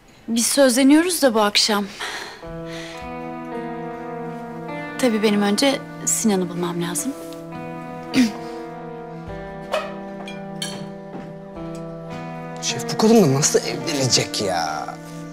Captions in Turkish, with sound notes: Biz sözleniyoruz da bu akşam. (Nefes sesi) Tabii benim önce Sinan'ı bulmam lazım. (Öksürme sesi) (Ayak sesi) Şef bu kadınla nasıl evlenecek ya?